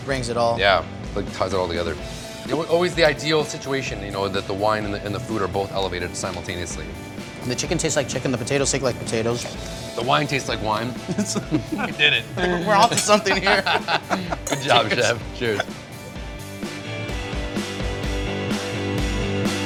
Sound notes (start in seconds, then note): 12.3 laughs; 16.4 relaxed rock music